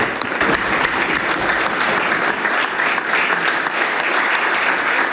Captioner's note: some Applause